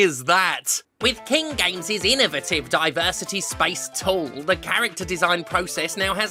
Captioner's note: mocking tone